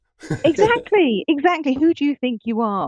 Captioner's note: chuckling